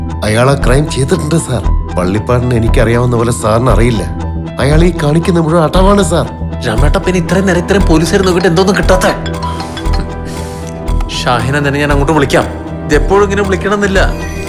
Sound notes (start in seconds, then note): 8.0 mobile rings